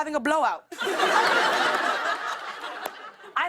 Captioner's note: laughter